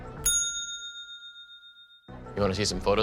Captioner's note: bell chiming